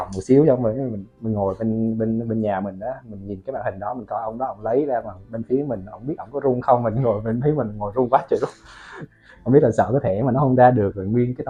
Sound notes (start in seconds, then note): 9.9 laugh